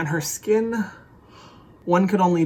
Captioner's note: exhale